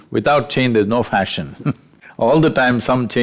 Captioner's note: laughs